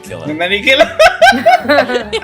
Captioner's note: laughter; laughs